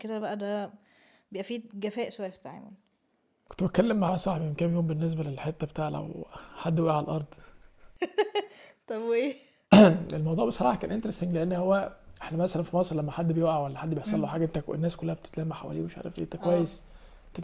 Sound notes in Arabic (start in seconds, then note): 9.7 تنحنُح